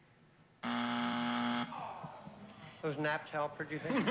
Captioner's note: buzzer